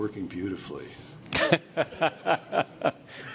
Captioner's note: laughter